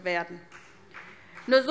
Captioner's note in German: Vereinzelter Beifall SPD